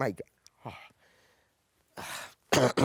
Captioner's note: clears throat